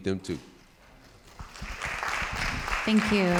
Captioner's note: audience applauding